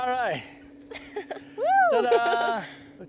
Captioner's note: laughter